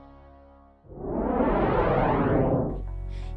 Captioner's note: whoosh